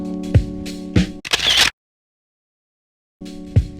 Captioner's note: camera shutter